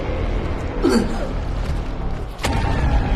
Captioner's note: grunting